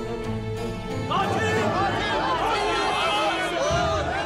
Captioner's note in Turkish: Hep bir ağızdan; Müzik - Gerilim